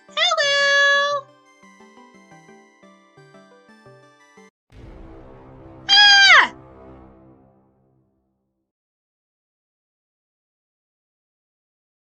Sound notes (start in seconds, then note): 5.9 Young SM screams